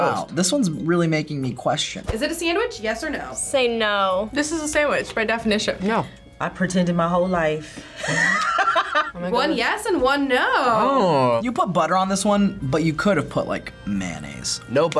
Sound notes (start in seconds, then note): 8.0 laughs